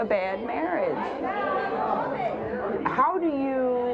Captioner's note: audience yelling